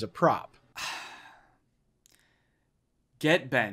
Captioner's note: Danny sighs